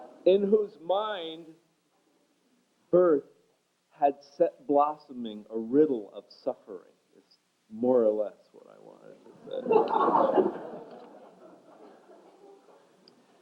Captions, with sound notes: ... in whose mind birth had set blossoming a riddle of suffering-- is more or less what I wanted to say. [laughter]